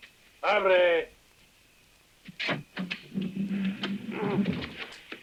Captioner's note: Guadalupano speaking in Spanish